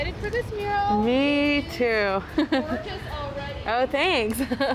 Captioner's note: chuckling